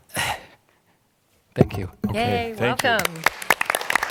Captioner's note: applause